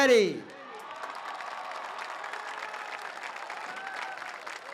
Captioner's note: audience cheers